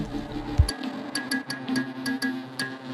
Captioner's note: plinking